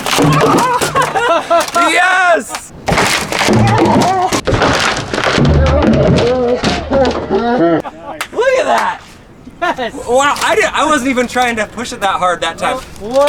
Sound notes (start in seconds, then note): 0.3 laughing; 2.8 board breaking; 8.7 clapping